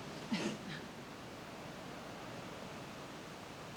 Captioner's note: Rose scoffs